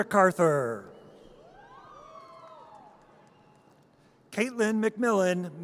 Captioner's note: audience cheers